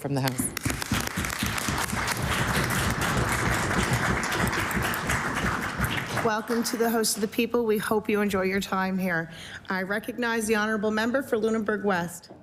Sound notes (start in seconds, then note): 3.2 applause